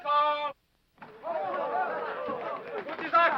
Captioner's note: men chattering